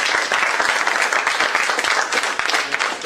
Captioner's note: applause